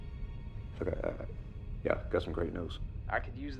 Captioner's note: stutters